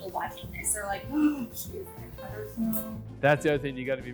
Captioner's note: gasps